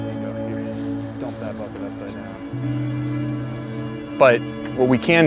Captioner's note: volunteers chatter